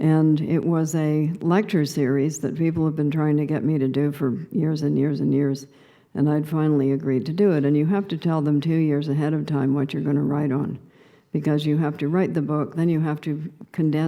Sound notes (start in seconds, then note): none